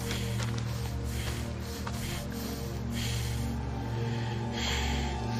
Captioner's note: breathing